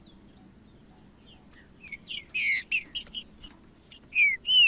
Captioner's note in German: trinca ferro cantando